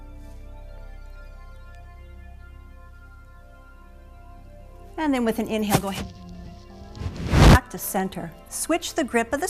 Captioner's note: static